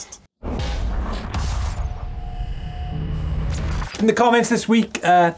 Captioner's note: electric buzzing